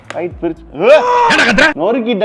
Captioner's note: woah!